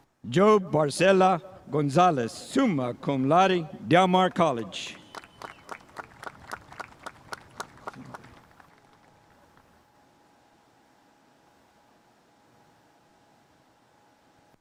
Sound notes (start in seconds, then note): 4.8 spectators applauding